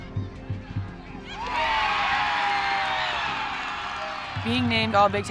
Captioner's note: cheering